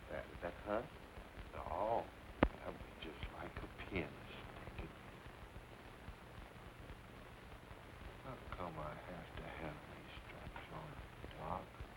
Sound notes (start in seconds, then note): none